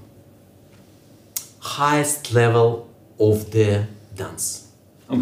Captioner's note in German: Er beendet den Satz auf Englisch